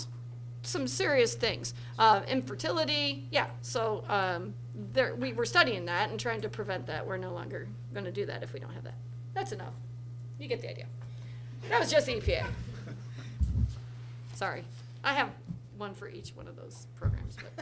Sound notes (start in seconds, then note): 11.6 laughter from audience; 17.3 laughs